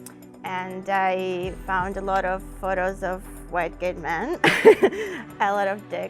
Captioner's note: chuckles